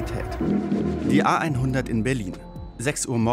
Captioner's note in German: Dröhnen